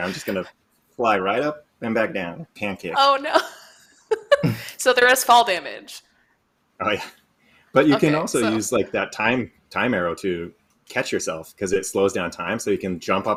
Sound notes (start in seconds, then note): 4.1 laughs